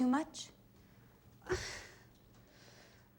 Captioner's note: sighs